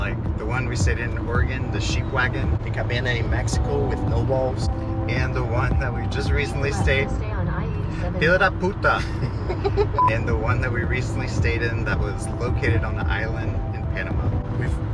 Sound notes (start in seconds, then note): 7.0 car voice navigation